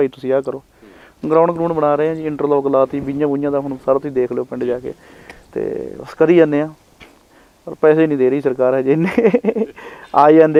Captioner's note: chuckles